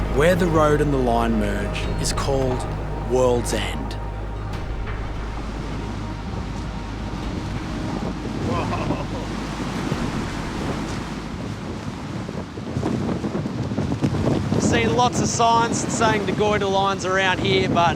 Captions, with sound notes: Where the road and the line merge is called Worlds End. (WIND BLOWS) Whoa. I've seen lots of signs saying the Goyder Line is around here